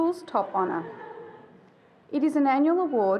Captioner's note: attendee giggling